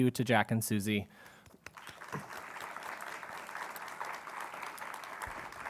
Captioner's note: applause